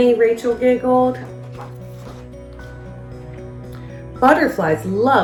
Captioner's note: uplifting instrumental music; pages shuffles